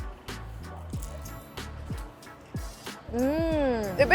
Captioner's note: pie crunching